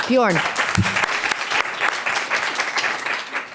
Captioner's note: applauds